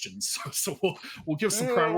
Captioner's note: giggles